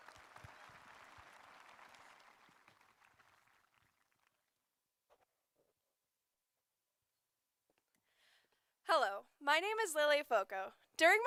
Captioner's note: applause